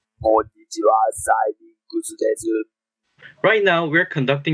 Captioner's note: modulated voice